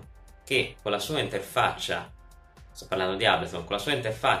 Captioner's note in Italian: sto parlando di ableton